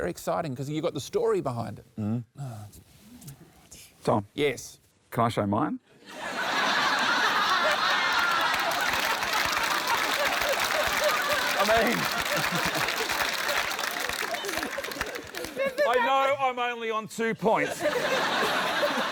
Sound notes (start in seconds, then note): 6.1 laughter, applause; 17.6 laughter